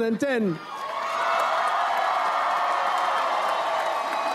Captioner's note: audience applauds